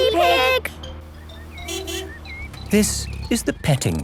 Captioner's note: honking